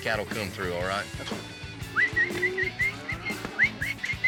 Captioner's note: whistling